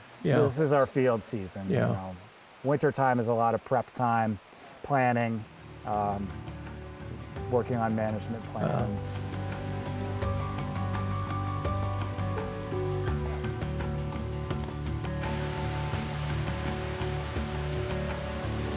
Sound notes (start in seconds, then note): 8.9 wind rustling leaves; 15.3 rushing water